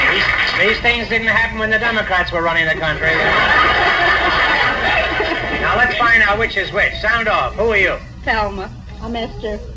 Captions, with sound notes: These things didn't happen when the democrats were running the country. (Audience laughs) Now let's find out which is which. Sound off, who are you? Thelma. I'm Ester.